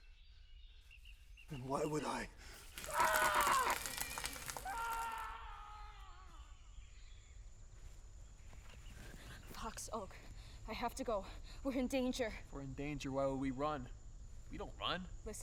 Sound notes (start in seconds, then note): 2.5 crackling; 2.7 screams